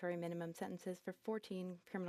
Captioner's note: speaking French